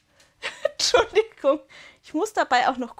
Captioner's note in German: Gelächter